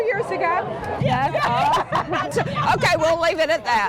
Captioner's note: all laugh